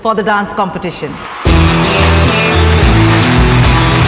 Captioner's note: All cheering, clapping